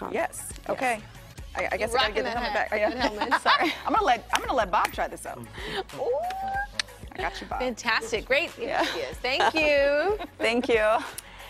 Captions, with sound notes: IT IS ALL NATURAL INGREDIENTS. THEY ARE CUTE, THERE'S CHOCOLATES, CUPCAKES. THERE ARE ALL KINDS OF TREATS. WE WILL LINK THE INFORMATION FOR ALL OF THIS ON A WEBSITE UNDER SHOW INFO. OKAY. [LAUGHTER]